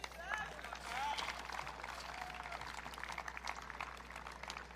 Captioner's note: audience cheering